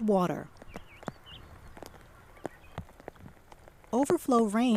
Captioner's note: raindrops hitting water